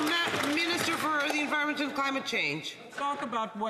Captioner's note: some Applause